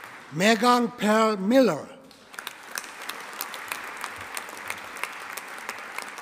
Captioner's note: audience applauding